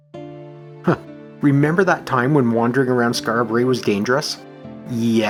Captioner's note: chuckles